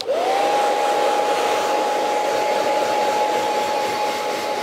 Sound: blow dryer whirring

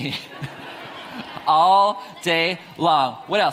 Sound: audience laughs; laughs

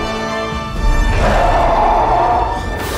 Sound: roaring

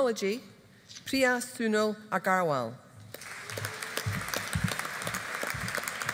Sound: audience applauding

